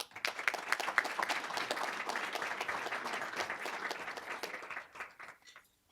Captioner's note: applause